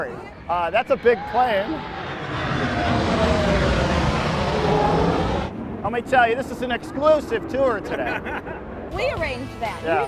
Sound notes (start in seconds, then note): 1.4 plane engine; 7.8 laughter